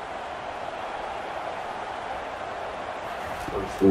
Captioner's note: crowd cheering